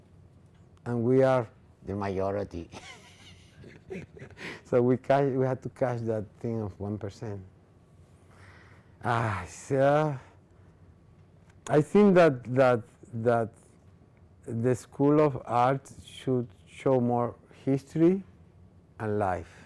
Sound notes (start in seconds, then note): 2.7 laughing